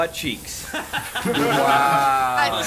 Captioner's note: group laughs